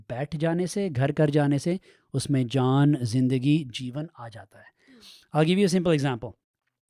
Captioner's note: sniffs